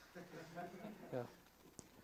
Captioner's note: student laughs